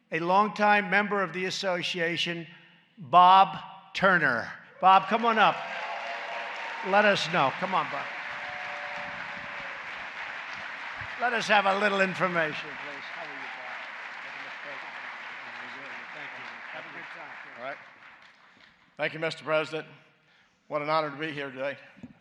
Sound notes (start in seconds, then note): 8.6 applause